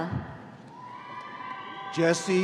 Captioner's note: audience cheering